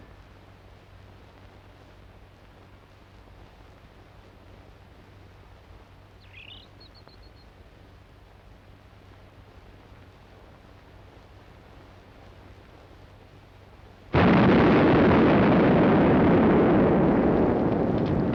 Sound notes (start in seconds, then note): 6.2 birds chirping; 14.1 bomb exploding